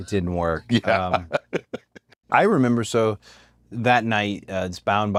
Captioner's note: laugh